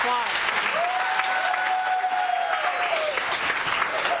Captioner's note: cheers and applause